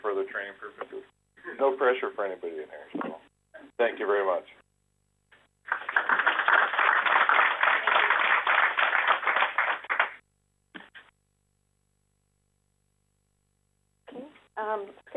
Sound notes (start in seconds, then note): 5.6 applause